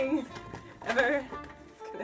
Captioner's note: laughs